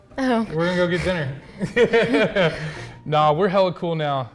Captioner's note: laughs